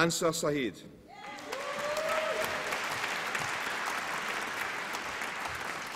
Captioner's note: applause and cheering